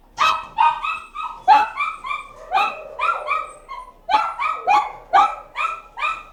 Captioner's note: dogs bark; kennel gate clanks